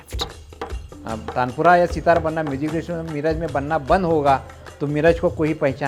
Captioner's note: speaking foreign language